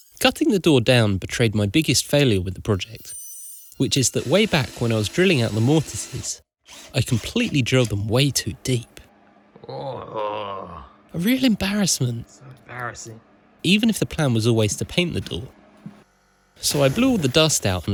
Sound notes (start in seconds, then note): 9.6 aaaarrgh